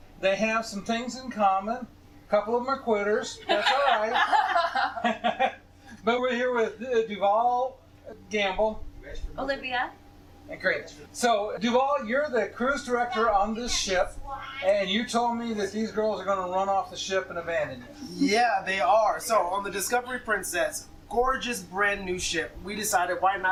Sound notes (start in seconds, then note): 3.4 laughter